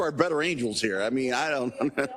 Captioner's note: laugh